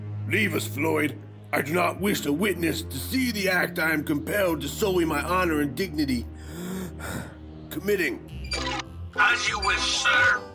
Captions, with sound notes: Leave us, Floyd. I do not wish a witness to see the act I am compelled to sully my honor and dignity... [takes breath] ...committing. As you wish, sir.